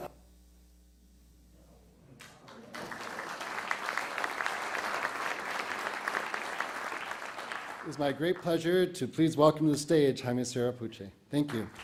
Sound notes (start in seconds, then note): 2.2 applause